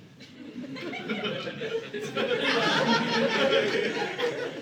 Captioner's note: audience laughing